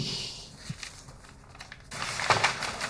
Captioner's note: papers rustling